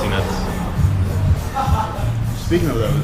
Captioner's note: laughter in the background